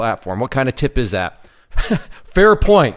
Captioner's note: laughs